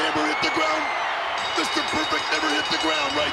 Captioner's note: bell rings